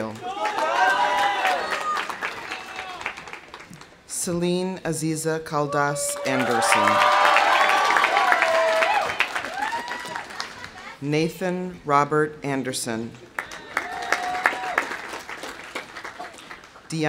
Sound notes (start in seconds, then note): 0.0 audience applauding; 0.1 audience cheering; 5.6 audience cheering; 6.0 audience applauding; 13.3 audience applauding; 13.4 audience cheering